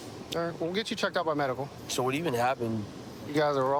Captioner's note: none